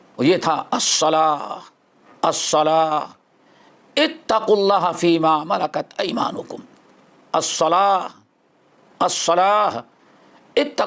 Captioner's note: in Arabic